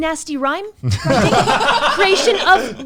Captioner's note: laughs